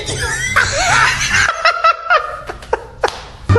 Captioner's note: laughs harder